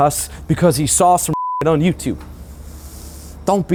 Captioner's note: beep